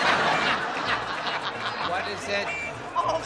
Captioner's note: laughter